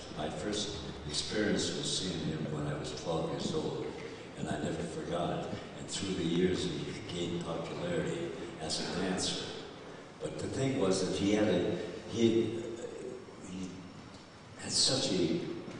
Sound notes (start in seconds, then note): none